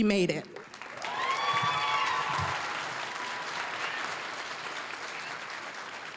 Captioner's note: applause, cheering; applause